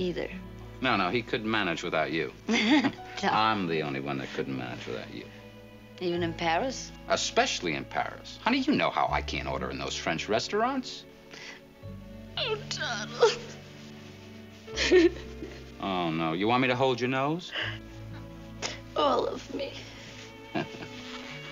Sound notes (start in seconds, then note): 2.4 laughs; 14.7 sobs; 20.5 chuckles